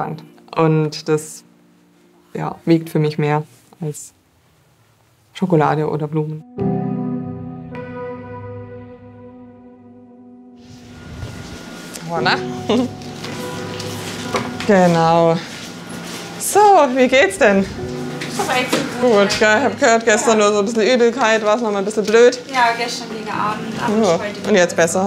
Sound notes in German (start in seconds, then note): 6.4 Bewegte Musik; 12.4 Lacht